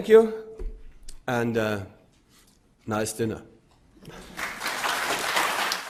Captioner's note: audience laughs